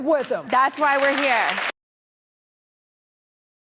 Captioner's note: applause